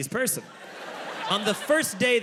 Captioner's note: audience laughs